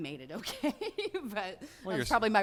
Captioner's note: laughs